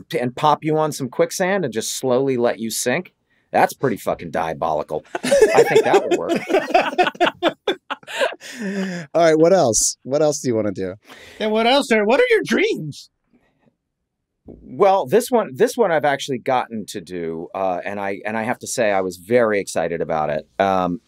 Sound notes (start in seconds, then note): 5.0 all laughing